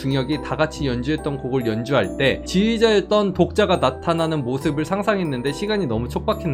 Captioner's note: voiceover